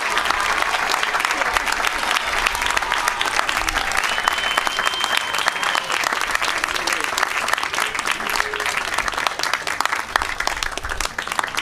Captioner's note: applause